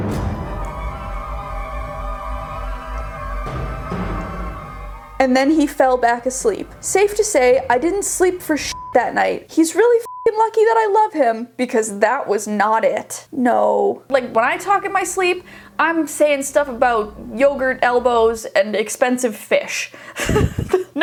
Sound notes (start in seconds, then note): 0.2 scary music; 8.6 beep